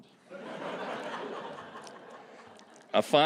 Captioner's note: laughter